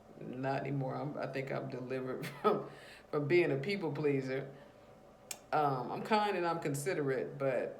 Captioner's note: chuckles